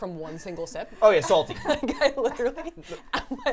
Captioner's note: laughing